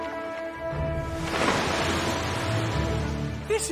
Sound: waves crashing

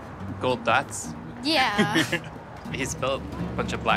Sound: chuckles

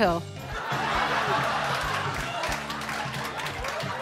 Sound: audience laughing

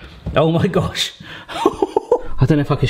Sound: chortles

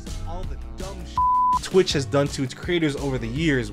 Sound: beep

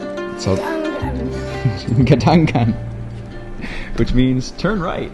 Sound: dramatic music; speaks foreign language

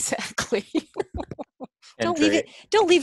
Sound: laughs

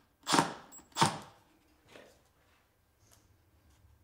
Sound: drilling wood

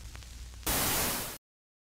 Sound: TV buzzing; loud TV buzzing

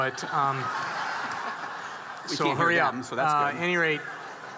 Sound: audience laughing

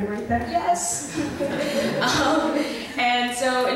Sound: voiceover

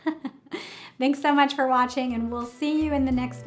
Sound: laughs

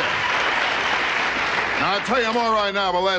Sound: audience applauding

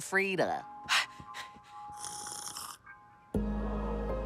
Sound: panting; slurps; light music

